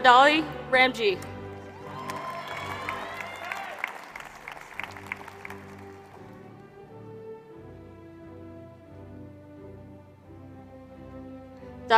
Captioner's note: applause